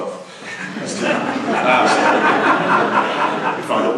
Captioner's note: laughter